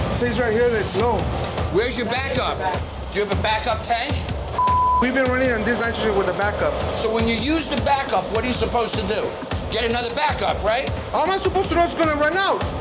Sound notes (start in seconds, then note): 4.6 beep